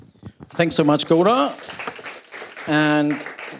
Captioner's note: applause